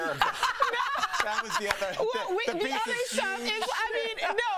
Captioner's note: laughter